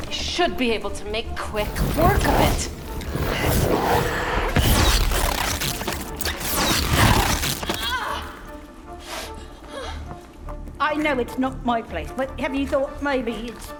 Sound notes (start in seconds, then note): 3.2 sharp zapping; 6.6 groaning, blows